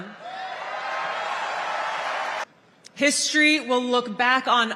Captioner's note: crowd Cheering